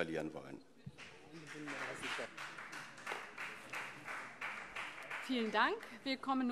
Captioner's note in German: Beifall CDU und SPD